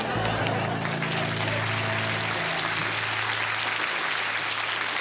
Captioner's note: audience applauding